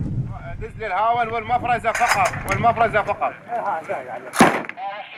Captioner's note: Arabic spoken audio